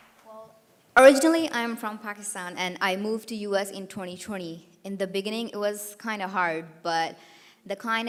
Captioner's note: applause